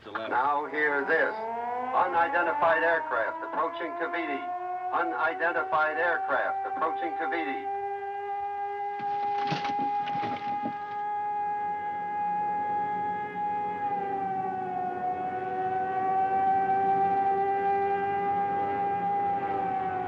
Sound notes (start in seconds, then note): 8.1 air-raid siren; 11.1 airplanes approaching